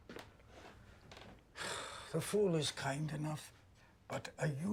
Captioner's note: sighs